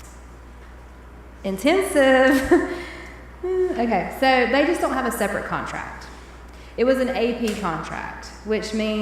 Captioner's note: chuckles